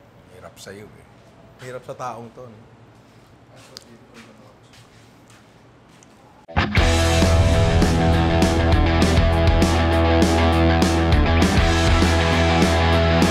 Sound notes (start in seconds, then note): 3.5 whispers in Greek; 6.7 outro music